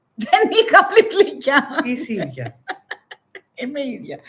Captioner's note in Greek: γέλια